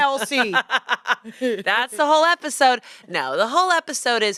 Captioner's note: laughs